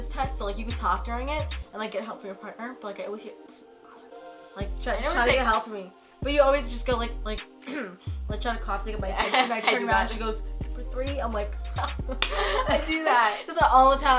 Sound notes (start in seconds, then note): 3.7 mumbled whispering; 7.6 clears throat; 11.6 laughing